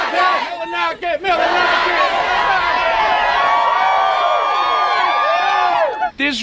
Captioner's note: applause, cheers!